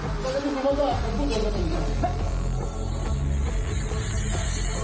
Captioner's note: people chatter indistinctly